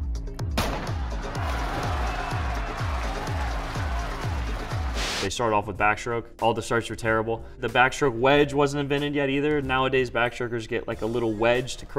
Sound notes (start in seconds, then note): 0.5 gunshot; 0.8 cheering and clapping